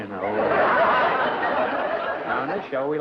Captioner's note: laughter